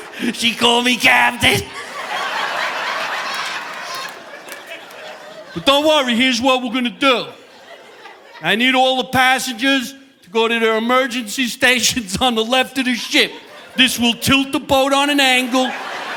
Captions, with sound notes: (chuckles) She called me Captain. (audience laughing) But don't worry. Here's what we're gonna do. I need all the passengers to go to their emergency stations on the left of the ship. This will tilt the boat on an angle.